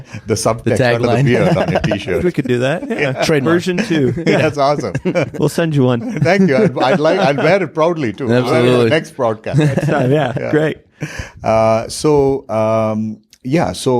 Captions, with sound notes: - The tagline (laughs). - subtext under the beard on your T-shirt. - We could do that, version two. - That's awesome. - We'll send you one. - Thank you, I'd wear it proudly, too. - Absolutely. - Next broadcast. - Next time, yeah, great.